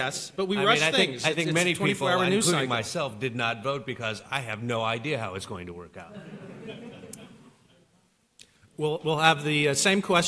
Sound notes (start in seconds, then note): 6.0 laughter